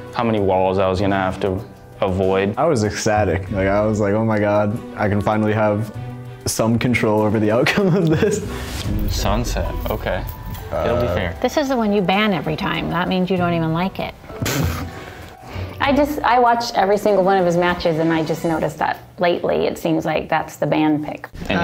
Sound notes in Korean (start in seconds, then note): 14.4 웃음